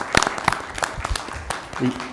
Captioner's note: applause